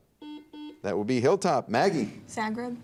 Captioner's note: buzzer dings